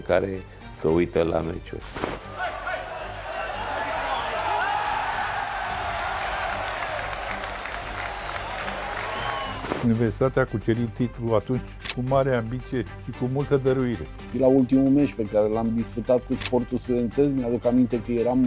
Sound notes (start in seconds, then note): 5.3 applause; 5.3 cheers